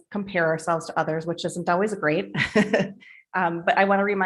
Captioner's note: laughing